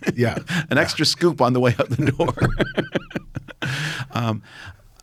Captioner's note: laughs